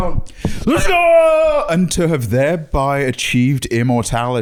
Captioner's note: yelling triumphantly